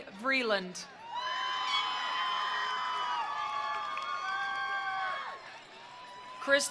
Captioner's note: attendees cheering; attendees applauding